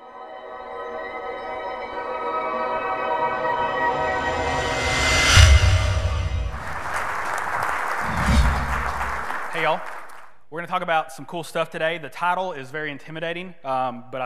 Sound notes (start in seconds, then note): 0.1 ethereal music; 6.6 audience clapping